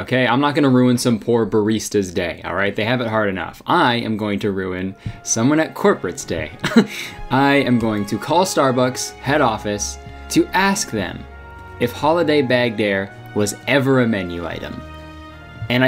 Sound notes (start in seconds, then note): 6.6 laughing; 6.8 inspirational music